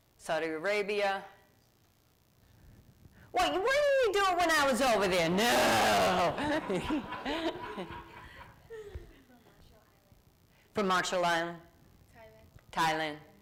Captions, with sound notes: >> Saudi Arabia. >> Wait. What were you doing when I was over there? No. [ Laughter ] >> From Marshall Island >> From Marshall Island. >> Thailand. >> Thailand.